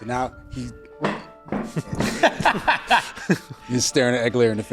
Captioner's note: loudly scoots his chair; cackles